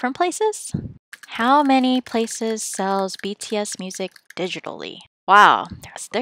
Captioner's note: typing